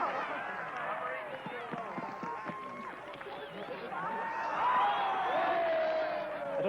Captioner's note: cheering